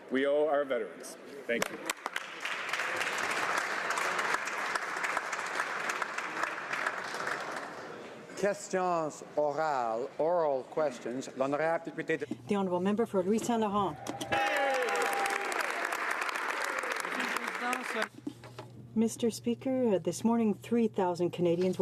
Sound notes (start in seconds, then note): 7.7 some Applause; 12.9 speaking French; 17.3 some Applause